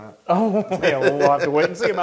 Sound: laugh

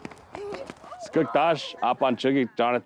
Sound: speaking O■odham tribal language

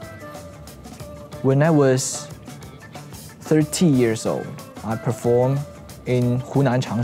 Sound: foreign language

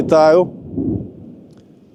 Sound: far explosion

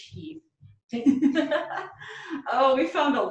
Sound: laughs

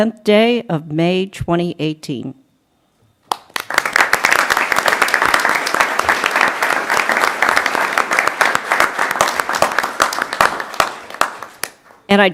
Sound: applause

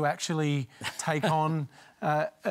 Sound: laughs

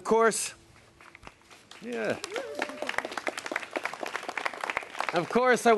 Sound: applause

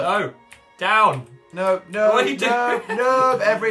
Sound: laughs

